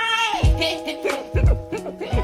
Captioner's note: laughs